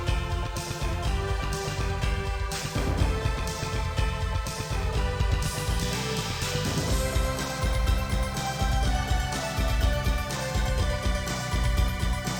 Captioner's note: clap